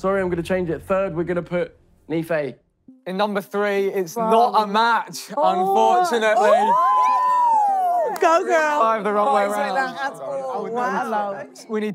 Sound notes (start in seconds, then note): 5.5 girls squealing